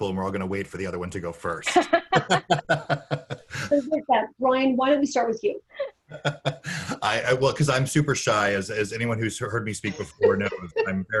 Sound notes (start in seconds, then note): 1.7 laughing